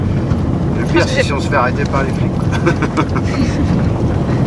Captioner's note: laugh